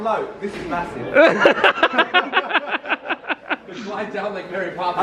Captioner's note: laughing